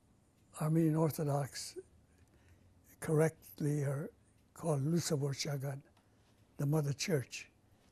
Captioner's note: pauses for 3 seconds; non-english